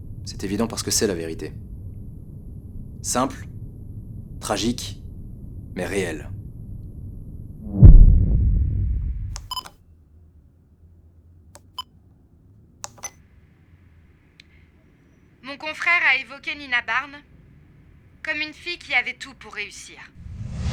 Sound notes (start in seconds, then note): 7.7 humming; 9.3 recorder beep; 12.9 recorder beep